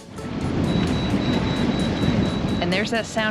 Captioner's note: beep, beep, beep